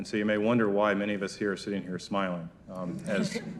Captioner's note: crowd laugh